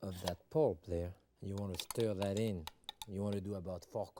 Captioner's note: spoon clinking